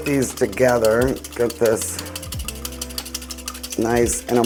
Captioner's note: glass clinking